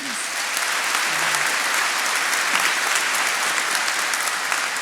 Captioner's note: attendees applauding